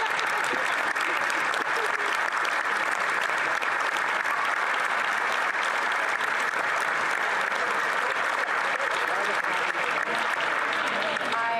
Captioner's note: some Applause